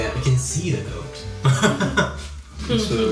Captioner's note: laughs